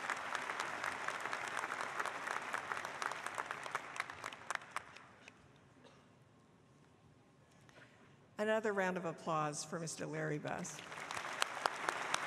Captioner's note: applause